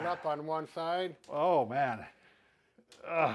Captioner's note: grunts